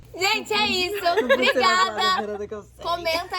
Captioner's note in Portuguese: laughing